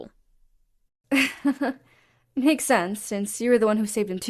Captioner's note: Calissa chuckles